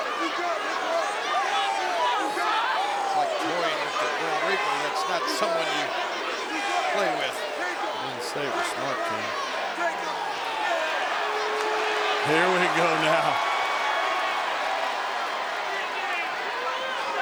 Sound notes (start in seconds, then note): 10.6 crowd murmuring